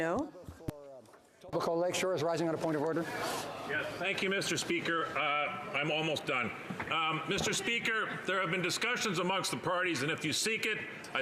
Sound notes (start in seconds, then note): 2.4 speaking French